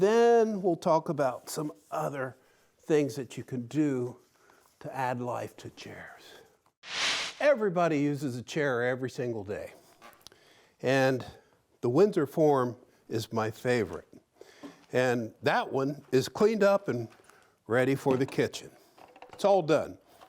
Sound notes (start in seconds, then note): 6.8 swishing sound